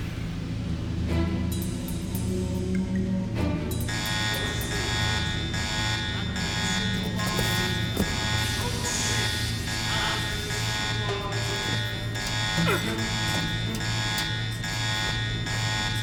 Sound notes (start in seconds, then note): 4.1 alarm blaring